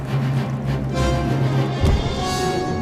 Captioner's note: punch thud; underwater bubbling